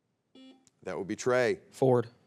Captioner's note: buzzer beeps